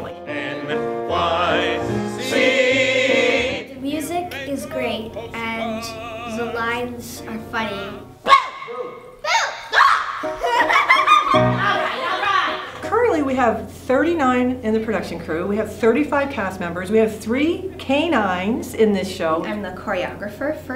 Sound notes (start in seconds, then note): 9.2 screams; 10.2 laughter